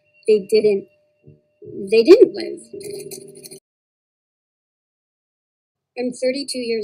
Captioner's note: stopping tape sound